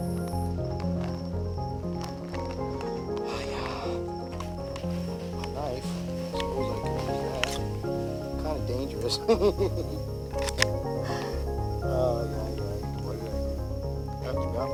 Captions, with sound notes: (Sigh)... I've got my knife? I suppose I could use that? Ha ha haa Kinda dangerous tho... he he he Aye yi yi what are ya gonna do?